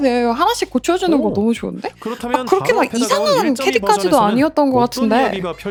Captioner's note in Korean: 웃음